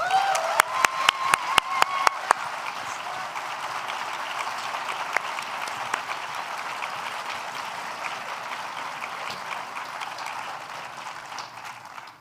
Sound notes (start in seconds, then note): 0.0 applause